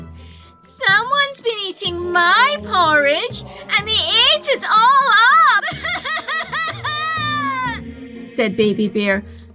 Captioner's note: cries